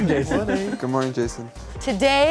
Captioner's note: laughing